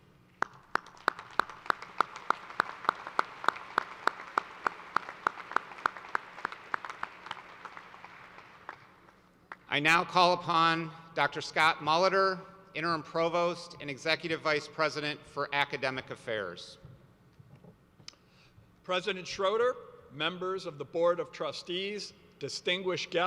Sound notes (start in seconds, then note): 5.5 applause